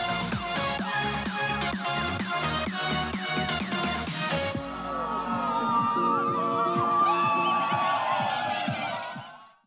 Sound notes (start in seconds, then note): 4.6 students cheering